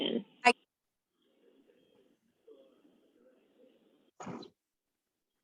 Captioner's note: male voices chattering